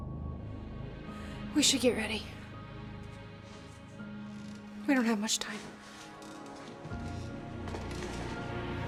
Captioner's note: breathing heavily